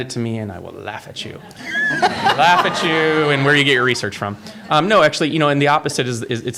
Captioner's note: laughter